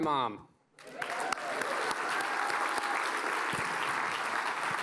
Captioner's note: cheers and applause